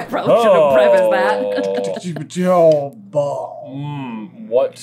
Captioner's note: noises of discomfort